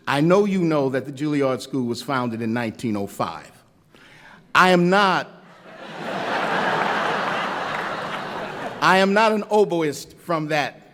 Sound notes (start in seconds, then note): 5.5 laughter